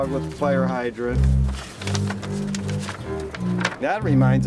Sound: paper rustling softly

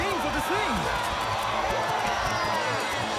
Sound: cheering

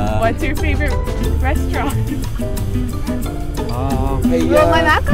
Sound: laughter

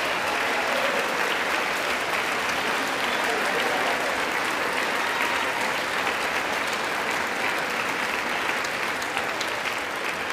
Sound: applause

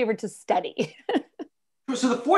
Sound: laughter

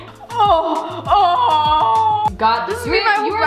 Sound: gagging

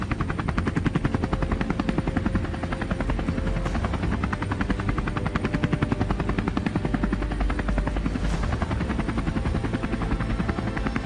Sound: helicopter sounds

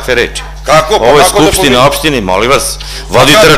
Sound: chair interrupts

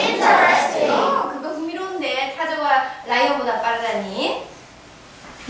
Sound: speaking foreign language

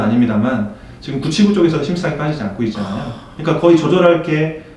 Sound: impressed

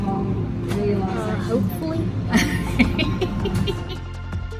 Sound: giggles

